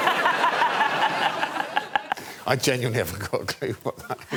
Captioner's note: laughter